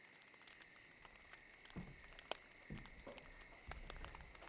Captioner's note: fire crackling